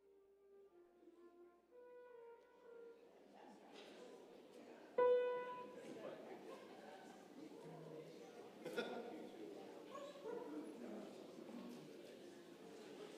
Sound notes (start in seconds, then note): 0.1 trumpet music; 0.8 congregation chattering